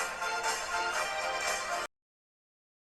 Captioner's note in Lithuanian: Plojimai